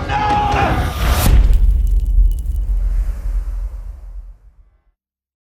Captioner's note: impact